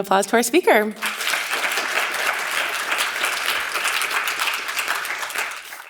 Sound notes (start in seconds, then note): 1.0 audience applauds